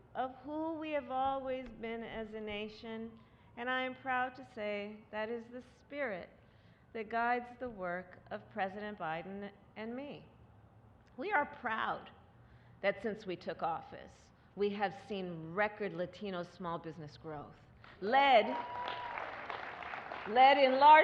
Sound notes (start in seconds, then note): 17.8 applause